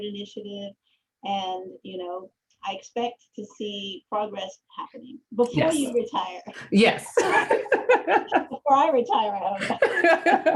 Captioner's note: laughter